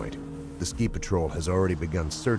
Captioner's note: voiceover